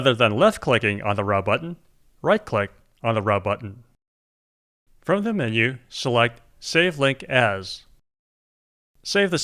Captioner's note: none